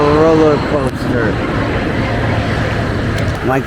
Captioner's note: jets flying